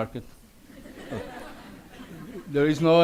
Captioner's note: audience laughs